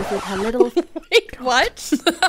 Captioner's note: record scratch